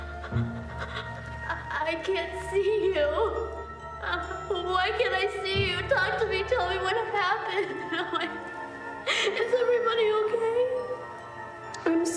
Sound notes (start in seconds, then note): 0.3 gasping; 3.9 sobs; 8.9 sobs